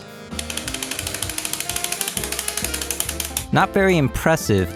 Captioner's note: random mashing